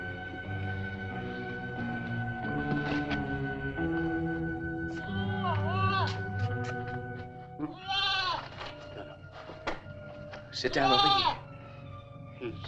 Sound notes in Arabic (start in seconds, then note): 0.0 موسيقى متوترة; 5.6 نباح الماعز